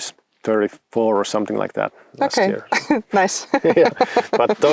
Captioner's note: laughs